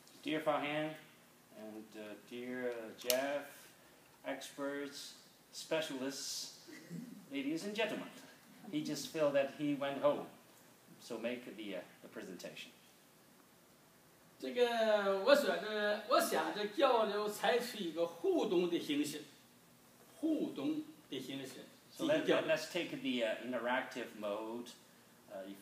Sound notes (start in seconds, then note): 14.7 speaking foreign language